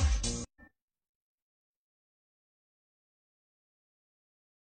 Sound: silence

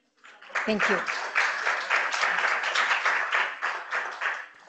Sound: audience applauding

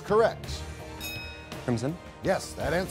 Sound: bell chimes

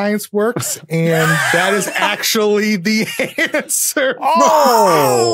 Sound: laugh

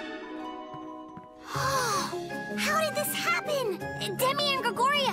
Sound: gasps

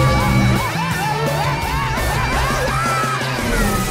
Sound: Crusher screaming

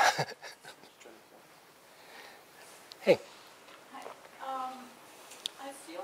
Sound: pause

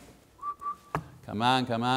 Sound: whistling

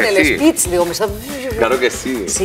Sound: rewinding

